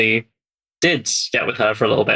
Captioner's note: laughs